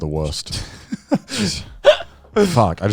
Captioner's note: chuckle